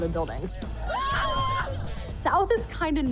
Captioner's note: battle cries